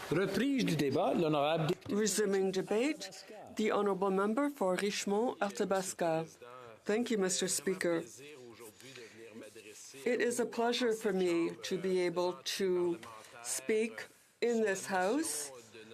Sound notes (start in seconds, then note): 4.1 speaking French